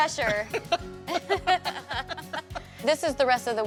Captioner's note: both laughing